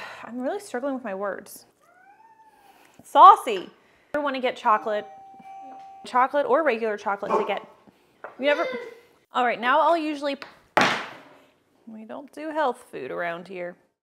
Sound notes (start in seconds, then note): 1.8 meow; 4.5 door bell; 7.2 bark; 8.5 baby cries